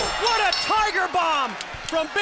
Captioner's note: bell rings